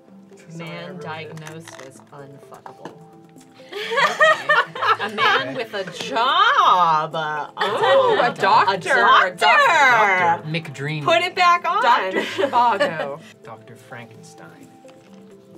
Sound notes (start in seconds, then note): 3.8 distressed laughter